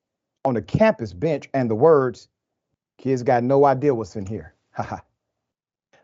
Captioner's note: laugh